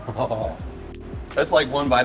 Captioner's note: chuckles